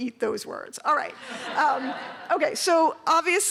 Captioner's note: laughter